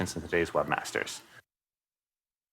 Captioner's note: pause